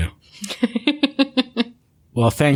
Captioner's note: laughter